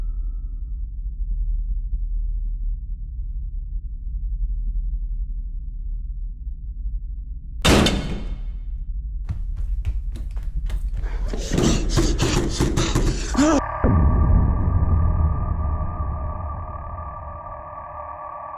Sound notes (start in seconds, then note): 7.6 doors slam shut; 12.4 suspenseful music